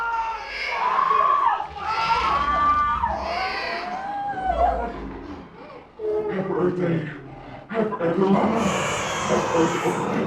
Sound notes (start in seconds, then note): 0.1 Shane and Nigel both scream; 1.4 Sarahs screams intensify